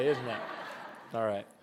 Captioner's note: laughter